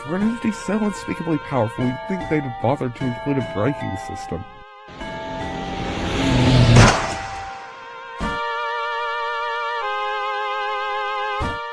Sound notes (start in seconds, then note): 5.0 powering up; 6.7 boom